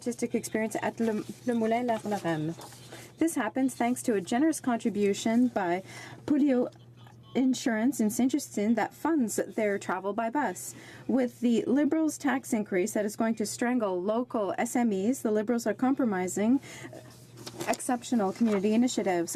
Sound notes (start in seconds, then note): 5.5 speaking French